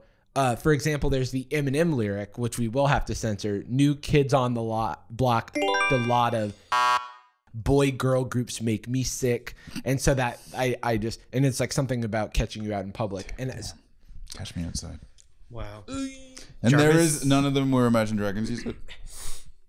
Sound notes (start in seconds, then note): 5.5 chime; 6.7 buzzer; 15.5 groans